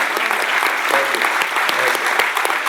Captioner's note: applause